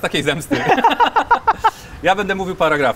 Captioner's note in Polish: śmiech